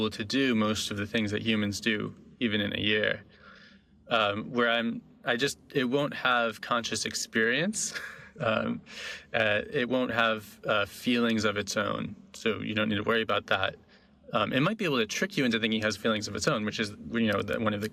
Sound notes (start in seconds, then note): 7.9 laughing